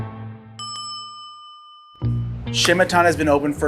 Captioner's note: bell rings